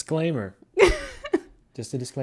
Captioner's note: laughs